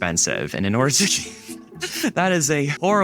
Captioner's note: laughs